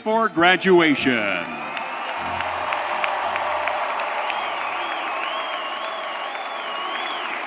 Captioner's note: audience cheering; audience applauding